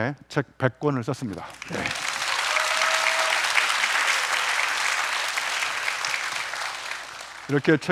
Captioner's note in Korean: 박수